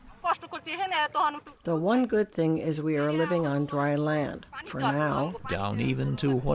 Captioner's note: through translator